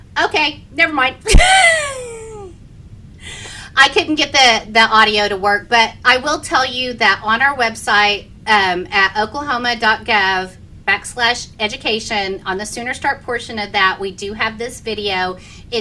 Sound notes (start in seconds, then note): 1.2 laughing